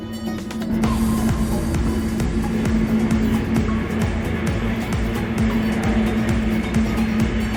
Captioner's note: rotor and engine noise